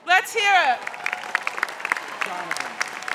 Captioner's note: crowd cheers